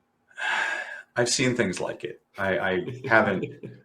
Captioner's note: sigh